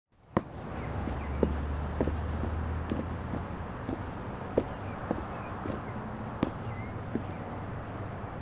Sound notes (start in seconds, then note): 0.4 foot steps